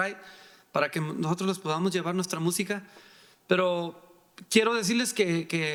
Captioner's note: speaking in foreign language